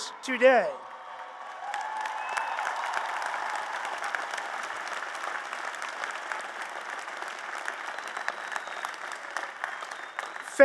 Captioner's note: applause and Cheers